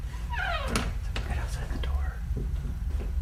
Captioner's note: whisper